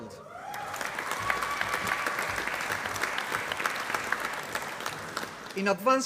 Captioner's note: applause